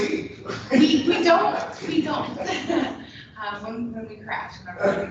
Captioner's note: chuckles